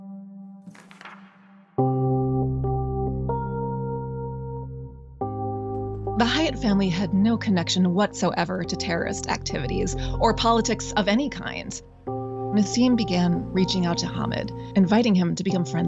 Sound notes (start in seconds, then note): 0.7 slide flips; 1.8 gentle music